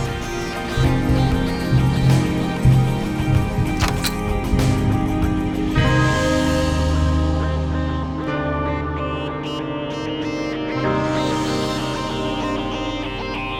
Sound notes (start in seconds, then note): 3.7 console thwacking; 4.7 dramatic electronic music with buzzing accents